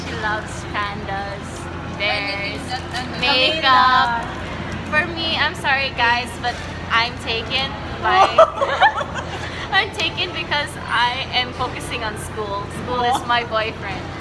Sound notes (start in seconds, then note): 8.0 laughs